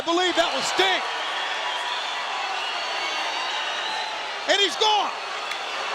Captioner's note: audience cheering